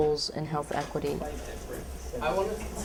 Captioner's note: background talk